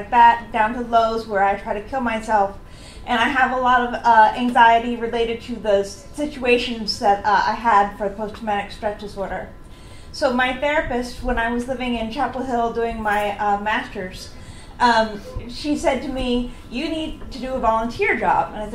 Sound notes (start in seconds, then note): none